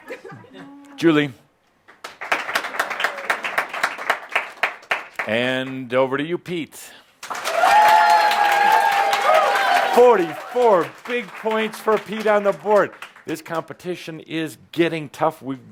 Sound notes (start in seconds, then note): 1.8 a few more claps; 7.2 much applause and cheering